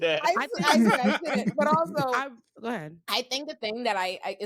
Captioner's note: laughing